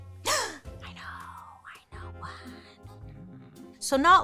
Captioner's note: gasps